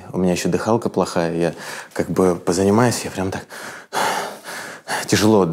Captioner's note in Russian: громко дышит